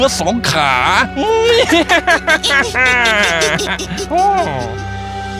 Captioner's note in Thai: หัวเราะ